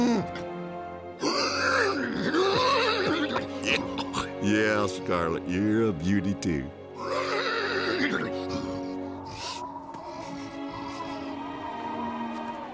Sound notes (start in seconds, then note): 0.2 neigh; 7.0 neigh; 9.2 wind howling